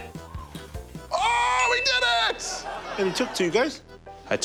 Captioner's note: buzz!; ding!